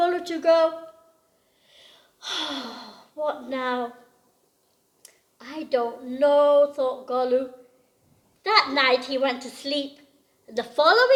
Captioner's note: sighs